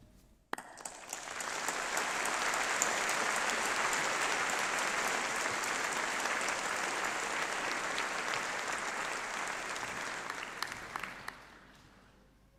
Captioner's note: applause